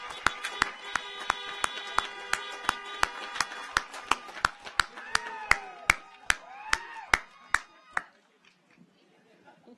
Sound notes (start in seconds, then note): 5.2 audience cheers